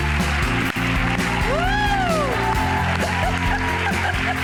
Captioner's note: audience applauds